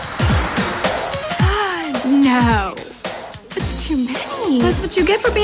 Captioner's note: gasps